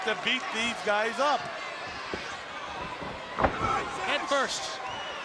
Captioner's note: crowd chatter